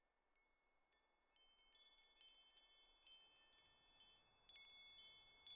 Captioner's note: chiming